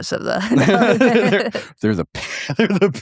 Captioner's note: both laughing